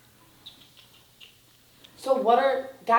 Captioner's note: mouth clicking